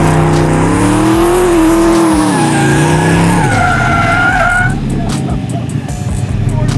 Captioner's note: tires squeal; engine roars